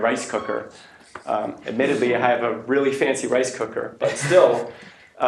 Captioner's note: laughter